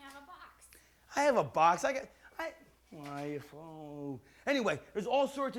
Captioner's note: mutters